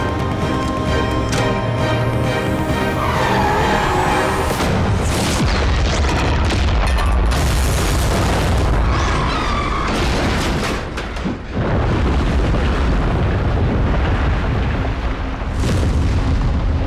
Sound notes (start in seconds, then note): 2.7 tires squealing; 6.2 tunnel exploding